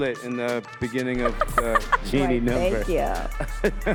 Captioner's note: laughs